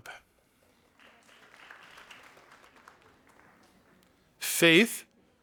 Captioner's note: audience applauding